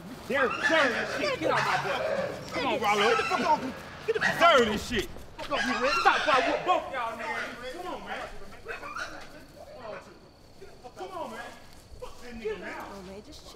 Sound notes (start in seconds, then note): 7.9 dog barks; 8.4 Red and Rilow yell angrily